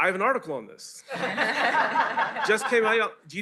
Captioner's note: laughter